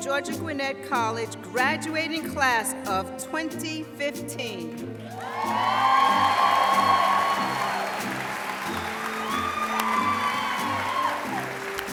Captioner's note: applause